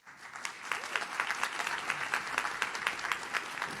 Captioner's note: audience claps